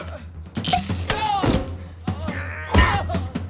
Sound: cork pops; groans

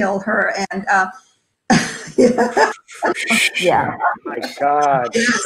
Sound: laughs

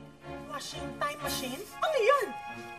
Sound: none

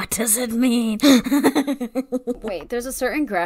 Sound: laughs

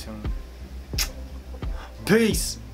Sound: lips smack

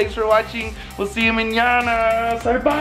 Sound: speaks in a foreign language

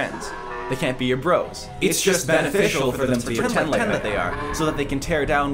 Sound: multiple distorted voices

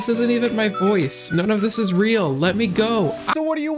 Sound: music slowly degrades; added vibrato

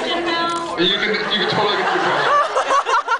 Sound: laughs

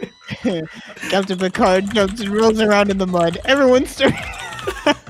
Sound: laughs

